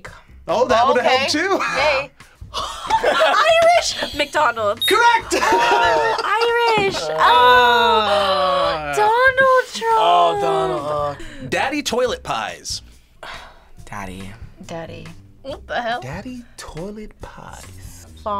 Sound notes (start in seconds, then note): 2.5 both laugh; 10.4 gasps; 13.2 sighs